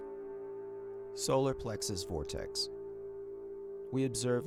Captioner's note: tone reverberating